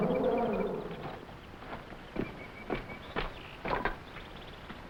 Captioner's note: footsteps rustling